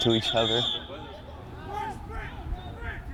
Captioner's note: whistle